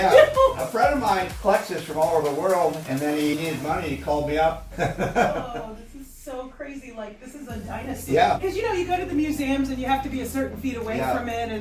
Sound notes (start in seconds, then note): 4.6 laughs